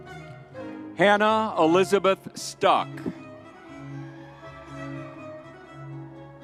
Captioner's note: crowd cheering